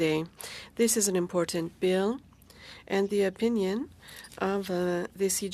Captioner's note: speaking French